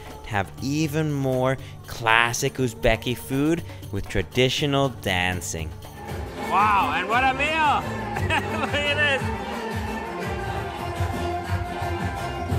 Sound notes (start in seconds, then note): 6.0 upbeat music; 7.8 laughs; 9.9 upbeat music